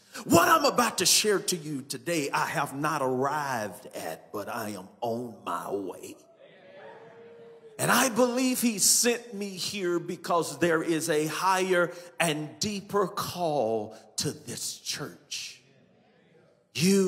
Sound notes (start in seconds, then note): 6.2 congregation cheers